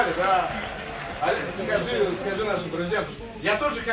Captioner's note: applause